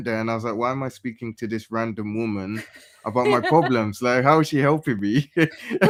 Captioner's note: laughter